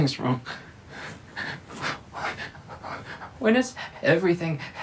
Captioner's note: Billy panting